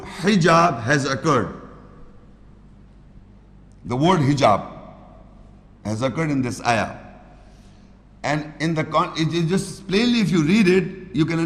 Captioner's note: Arabic